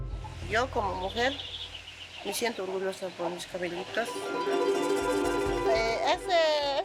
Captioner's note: bright music; speaking in foreign language